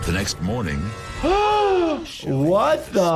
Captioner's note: people gasping